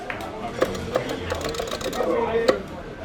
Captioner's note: people chattering; arcade stick clicking; people chattering